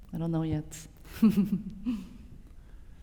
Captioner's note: laughter